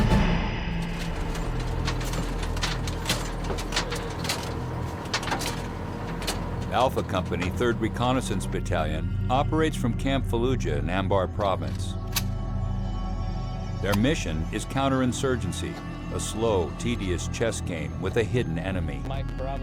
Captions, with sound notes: - [Voiceover] Alpha Company, 3rd Reconnaissance Battalion operates from Camp Fallujah in Anbar Province. Their mission is counter insurgency: a slow, tedious chess game with a hidden enemy.